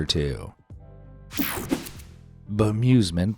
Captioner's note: graphics whooshing